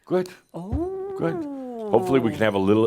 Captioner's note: whispers